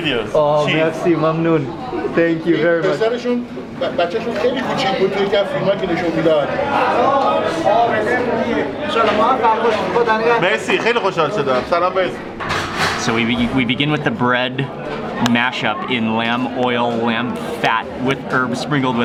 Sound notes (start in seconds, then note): 0.5 speaks in foreign language; 7.8 people speaking in foreign language